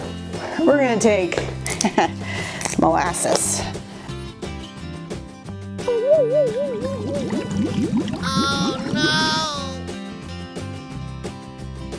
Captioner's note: heh heh